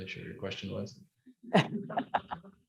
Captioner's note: laughing